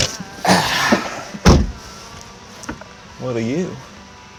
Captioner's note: hitchhiker sighs